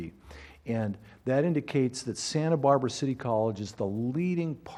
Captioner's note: none